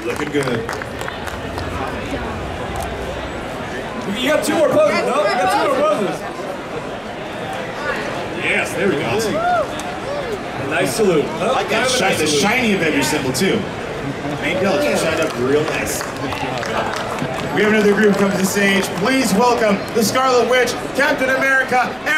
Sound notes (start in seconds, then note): 0.0 audience clapping; 1.5 audience chattering; 5.4 audience chattering; 13.2 audience chattering drowns out male announcer